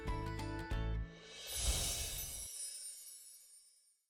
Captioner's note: chiming